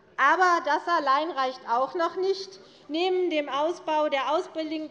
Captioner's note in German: none